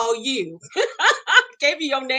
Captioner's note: laughing